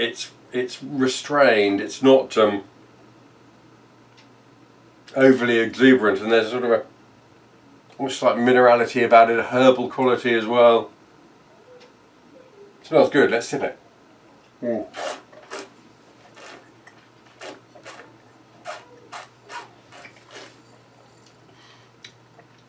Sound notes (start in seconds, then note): 15.2 slurping